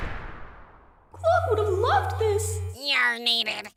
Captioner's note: echoing